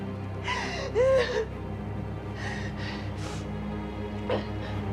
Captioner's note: dramatic music; Maggie moaning; dramatic music